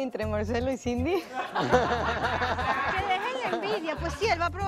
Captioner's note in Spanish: Risas